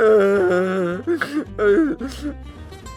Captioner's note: sobbing